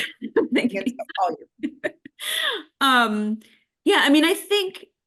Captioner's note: laughter